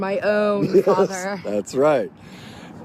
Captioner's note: laughs